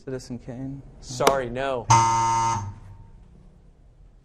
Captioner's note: wrong answer buzzer; out of time alarm